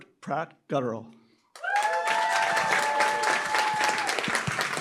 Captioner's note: applause, cheering